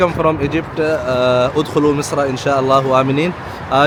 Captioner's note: Arabic